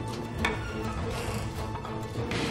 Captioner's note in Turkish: Kapı gıcırdama sesi